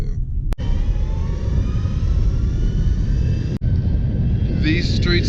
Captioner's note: sirens sounding